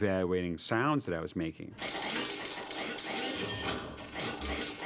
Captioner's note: metallic clattering; servos whining